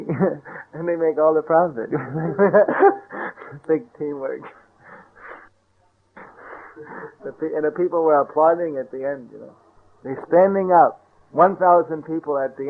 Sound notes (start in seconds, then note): 1.9 laughter